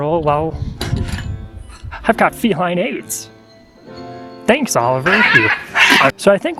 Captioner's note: cat screaming